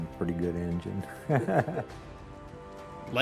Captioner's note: chuckling